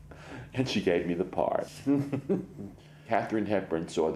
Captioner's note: laughs